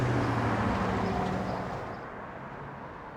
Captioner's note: traffic sounds